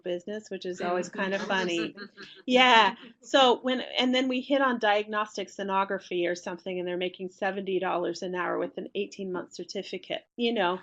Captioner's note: laughter